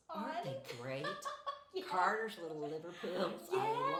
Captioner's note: laughing